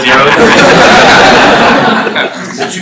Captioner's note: laughter